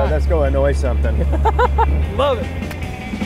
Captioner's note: laughs